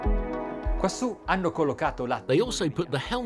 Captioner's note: speaking in a foreign language